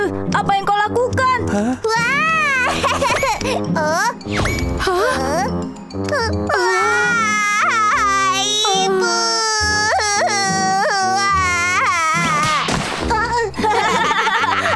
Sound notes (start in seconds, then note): 2.4 laughs loudly; 6.1 cries; 13.5 laughs loudly